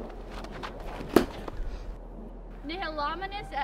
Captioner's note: thud